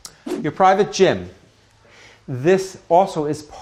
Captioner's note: floor plan whooshes